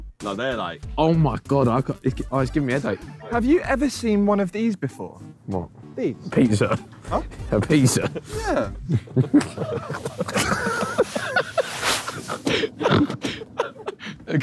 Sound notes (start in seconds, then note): 10.1 all laughing